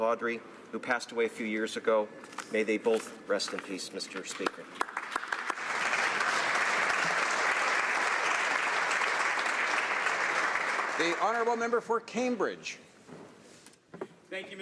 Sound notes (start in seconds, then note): 9.1 applause